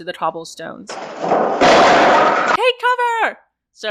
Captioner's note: wooden carts being pushed over